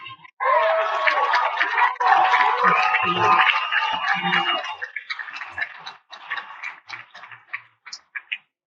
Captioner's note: cheers and Applause